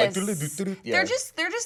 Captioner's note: hums